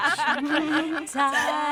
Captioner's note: all laughing